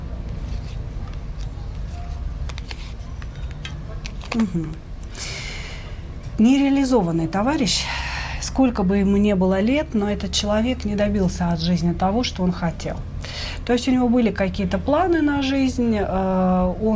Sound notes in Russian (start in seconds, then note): 7.7 вздыхает; 8.1 тяжело вздыхает